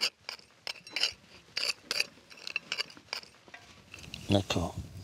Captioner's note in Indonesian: digging sounds